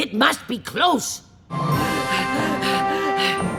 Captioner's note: panting